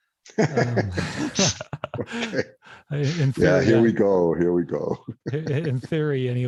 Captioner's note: laughs